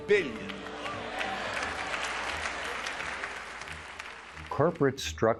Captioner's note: aplausos